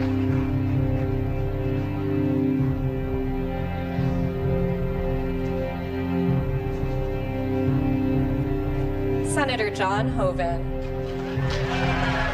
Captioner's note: applause